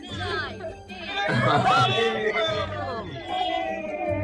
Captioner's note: crew cheering